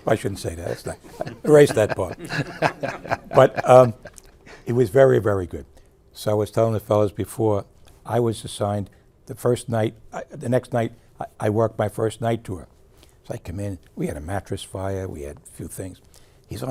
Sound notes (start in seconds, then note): 0.7 group laughing